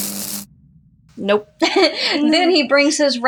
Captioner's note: electricity Buzzing; laugh